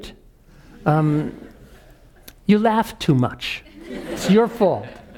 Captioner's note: laugh